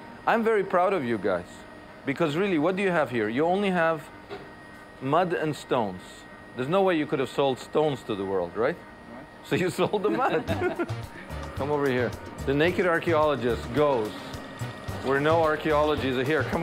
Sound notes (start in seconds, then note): 9.9 laughing; 10.2 gentle music